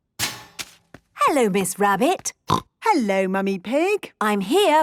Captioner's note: snorting